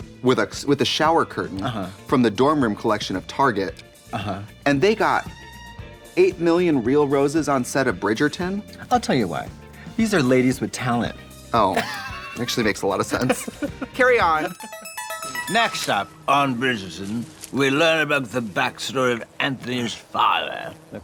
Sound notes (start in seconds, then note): 13.0 Katya laughs; 14.4 musical flourish